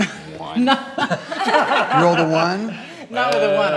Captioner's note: laughs